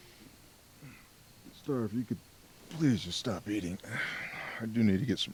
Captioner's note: sighs